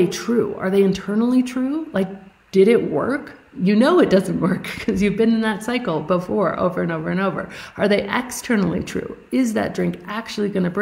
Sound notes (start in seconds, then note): 4.6 chuckling